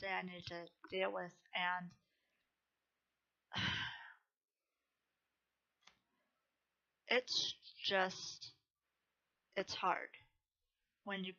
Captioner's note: sighs